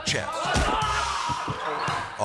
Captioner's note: master yelling; xylophone ascending